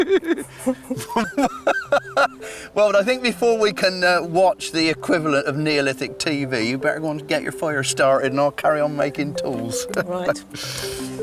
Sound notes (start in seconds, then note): 0.0 both laughing; 0.0 laughing